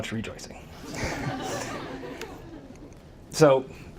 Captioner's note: audience laughs